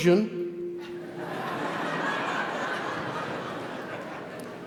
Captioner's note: audience laugh